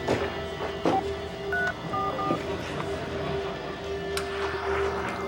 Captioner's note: phone beeping